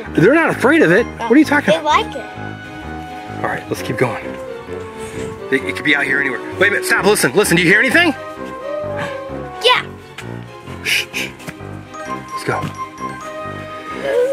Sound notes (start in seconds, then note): 8.4 howling